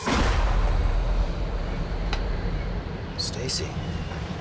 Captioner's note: startling tone